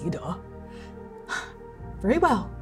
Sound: exhaling

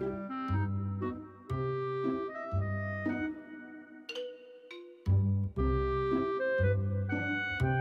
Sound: speaking baby talk

